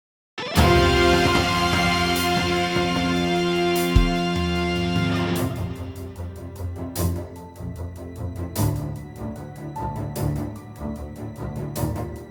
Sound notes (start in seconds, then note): none